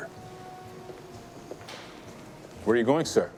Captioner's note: footstep